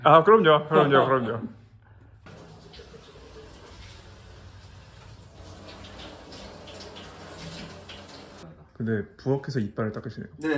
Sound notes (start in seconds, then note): 2.3 brushing teeth